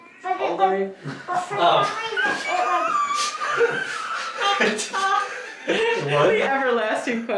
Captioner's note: all laugh